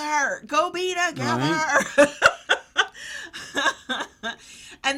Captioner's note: laughs